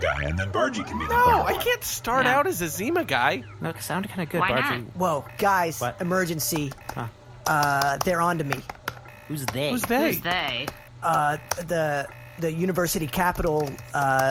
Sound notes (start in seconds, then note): 4.8 low beeping